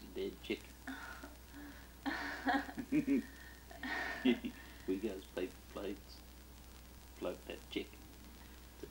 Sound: both chuckle

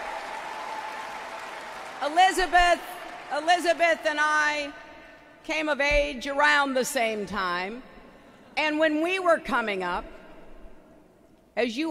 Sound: applause

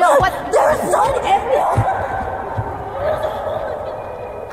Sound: Destiny screams

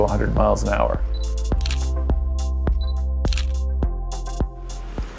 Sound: camera clicking

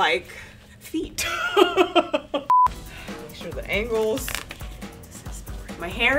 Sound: laughter

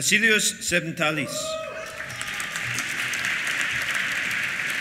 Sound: cheers; applause

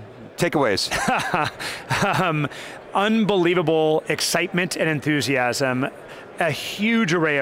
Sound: laughs

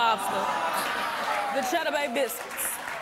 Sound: audience laughing and applause

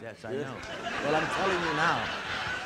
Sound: audience laughing

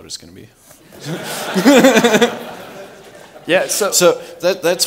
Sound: laughter

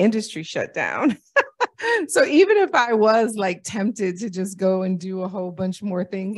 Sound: laughter

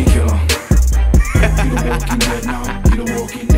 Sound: laughing

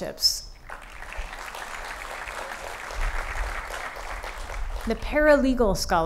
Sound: applause

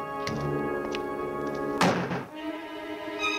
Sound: banging; foreboding music

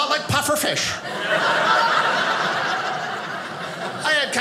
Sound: audience laughing

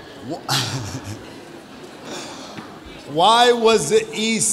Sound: chuckles

